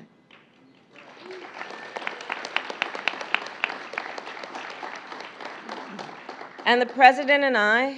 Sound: applause

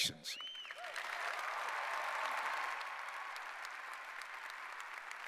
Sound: audience applauding

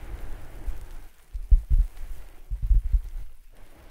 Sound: tapping with fingers

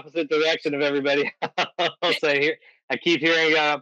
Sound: laughing

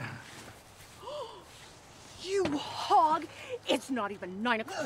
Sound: gasps

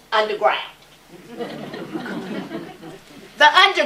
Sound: laughter

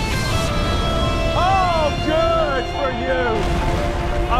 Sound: sarcasm

